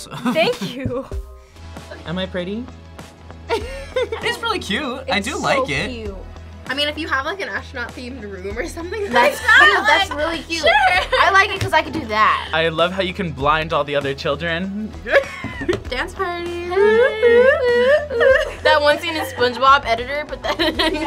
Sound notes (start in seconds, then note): 0.0 laughs; 3.5 laughs; 16.5 laughs